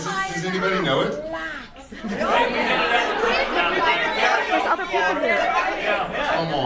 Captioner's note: audience cacophony